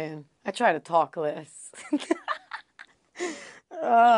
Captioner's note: laugh